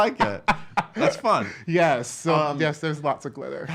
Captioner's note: laughs